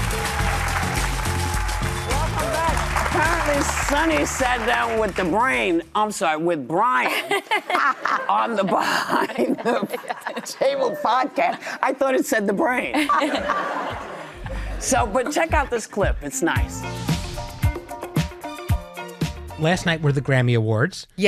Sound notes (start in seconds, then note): 7.1 laughs; 13.0 laughs; 17.0 upbeat music